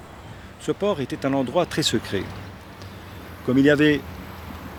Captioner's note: speaking French